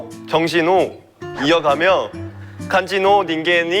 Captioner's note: korean again